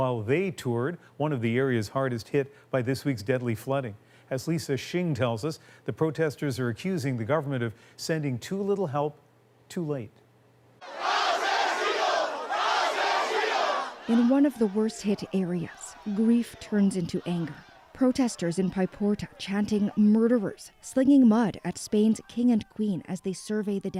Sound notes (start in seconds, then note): 15.1 chanting